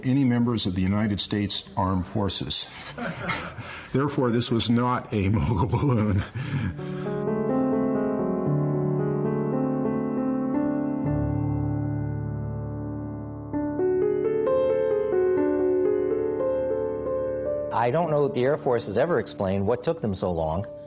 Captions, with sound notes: any members of the United States Armed Forces. (people laughing) Therefore, this was not a Mogul balloon. (gentle music) - I don't know that the Air Force has ever explained what took them so long